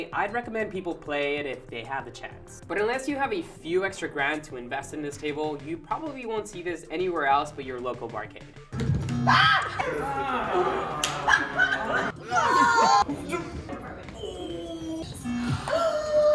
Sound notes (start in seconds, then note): 9.2 screaming; 12.5 vocalizing disappointment